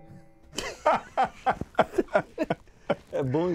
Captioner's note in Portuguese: Gargalhadas